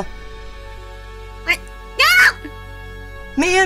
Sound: high-pitched voice

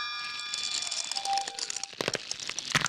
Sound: tinging noise; cracking sounds

